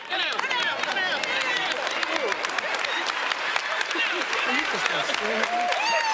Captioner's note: applause